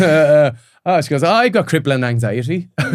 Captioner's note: all laughing